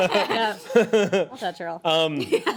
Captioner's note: everyone laughs